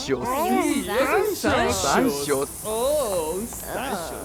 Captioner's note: mocking lower class pronounciation